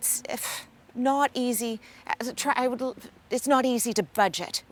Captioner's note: scoffing